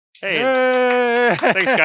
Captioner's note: cheering